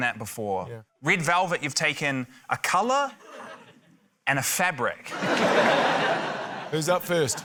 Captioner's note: laughter